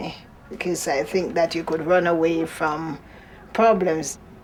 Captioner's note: none